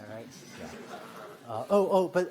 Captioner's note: laughter